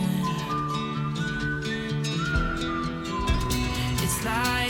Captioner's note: whistling